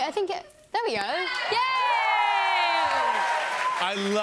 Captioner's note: cheers and applause